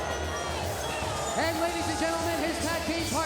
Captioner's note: crowd chatter